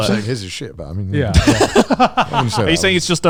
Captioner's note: laughing